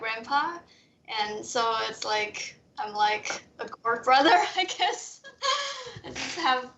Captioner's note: laughs